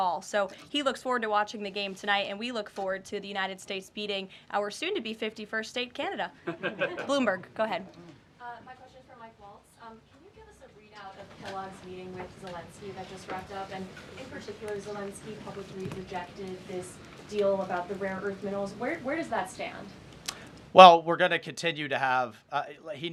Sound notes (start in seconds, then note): 6.4 laughter